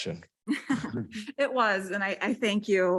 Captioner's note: chuckle